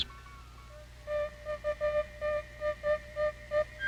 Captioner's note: equipment beeping